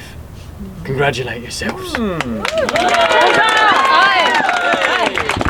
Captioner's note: audience cheering